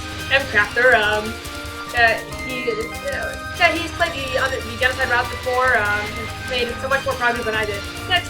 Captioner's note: stammering